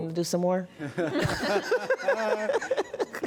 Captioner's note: laughter